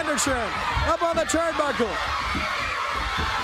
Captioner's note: crowd cheering